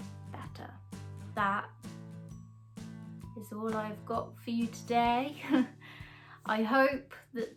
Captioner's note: laughs